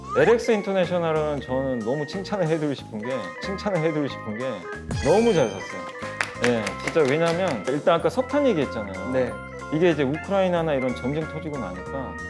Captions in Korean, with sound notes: 그리고 LX인터내셔널은 너무 칭찬해주고 싶은 게 [(박수)] 너무 잘 샀어요 아까 LX인터내셔널 매수 이유로 석탄 얘기했잖아요 이게 러시아와 우크라이나 전쟁이 일어나다 보니까